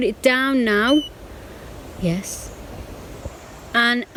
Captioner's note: beep